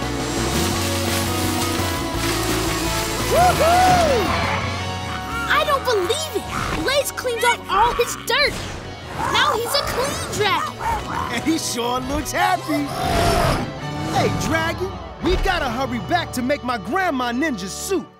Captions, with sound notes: Woo hoo! I don't believe it! Blaze cleaned up all his dirt! Now, he's a clean dragon! And he sure looks happy. [grunting] Hey, dragon. We've gotta hurry back to make my grandma Ninja Soup.